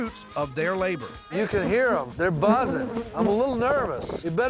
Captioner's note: bees buzzing